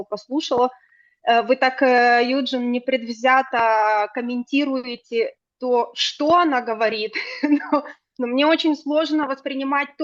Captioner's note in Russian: смех